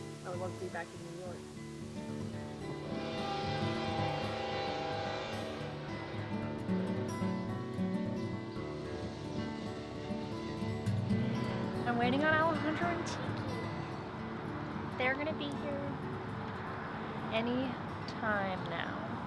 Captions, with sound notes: I want to be back in New York. (train beeping) I'm waiting on Alejandro and Tiki. They're gonna be here, any time now.